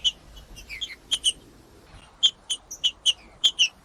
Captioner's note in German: trinca ferro cantando